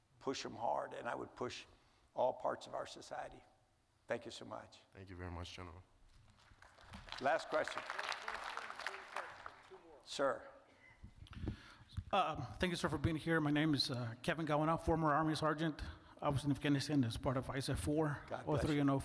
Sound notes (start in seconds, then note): 6.4 audience applauding